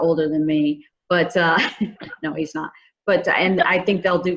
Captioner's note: chuckles